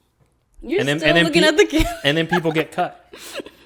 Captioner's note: laughs